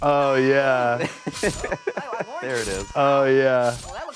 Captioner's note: apple screaming